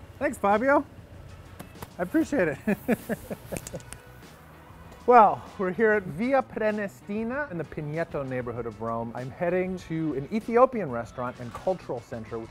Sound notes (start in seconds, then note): 2.5 laughs